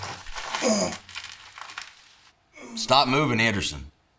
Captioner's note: Anderson groaning